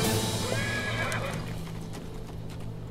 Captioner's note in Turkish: At kişniyor